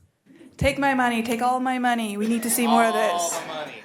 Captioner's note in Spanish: animos y aplausos